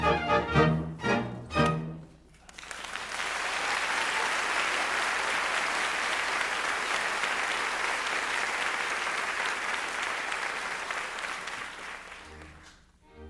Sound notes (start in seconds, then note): 2.4 applause